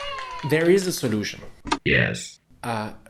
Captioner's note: robotic voice